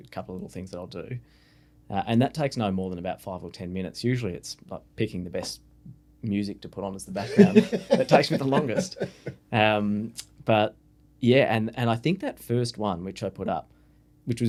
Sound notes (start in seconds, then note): 9.8 laughing